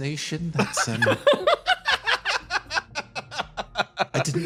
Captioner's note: laughs